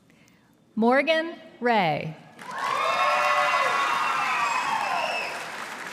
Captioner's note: audience applauding